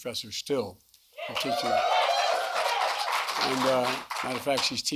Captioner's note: applause